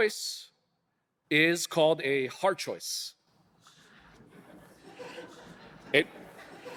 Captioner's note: audience laughing